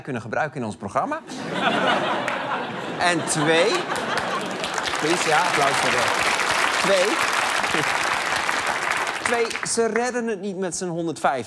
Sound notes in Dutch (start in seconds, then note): 1.2 gelach; 3.8 applaus